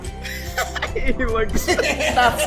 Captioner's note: laughs